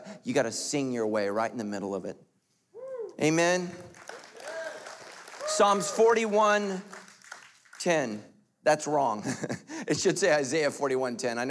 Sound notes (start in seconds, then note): 3.6 applauding